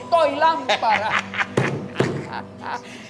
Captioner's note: laughs